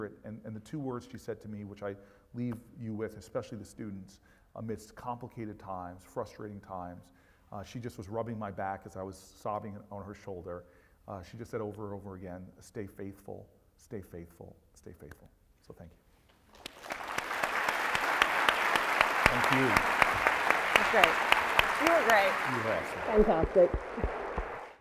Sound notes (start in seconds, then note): 16.5 applause